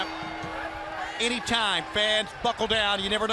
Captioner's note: bell ringing